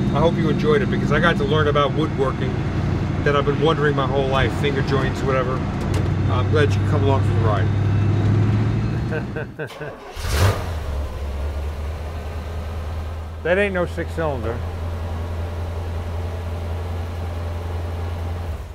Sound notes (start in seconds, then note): 8.9 laughs; 9.6 engine starts